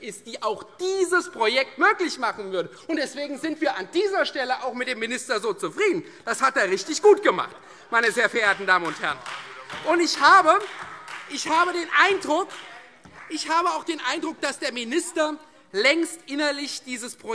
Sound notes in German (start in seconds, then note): 8.0 Beifall